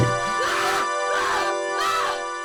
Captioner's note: sound of screaming